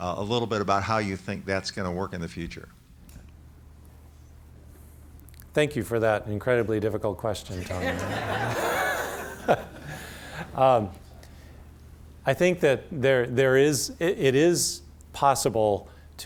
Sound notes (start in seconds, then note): 7.6 laughter